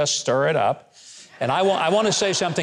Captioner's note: audience laughs